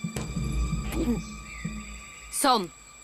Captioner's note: gulps